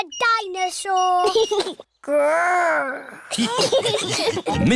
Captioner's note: giggles; laughter